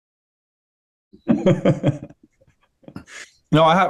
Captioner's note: chuckling